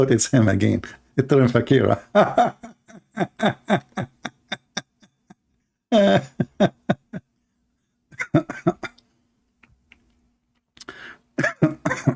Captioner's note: Ketawa